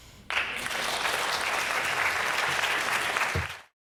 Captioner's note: applause